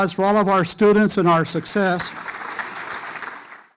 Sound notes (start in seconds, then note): 1.5 applause